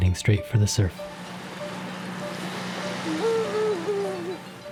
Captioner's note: waves crashing